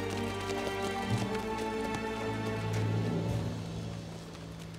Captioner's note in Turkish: At nalı sesleri